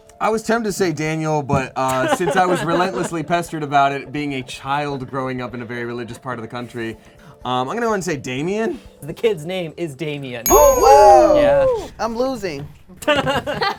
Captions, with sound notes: - I was tempted to say Daniel, but since I was relentlessly pestered about it being a child growing up in a very religious part of the country, I'm going to wanna say Damien. - The kid's name is Damien. (bell dings) (cheering) - I'm losing.